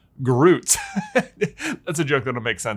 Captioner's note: chuckling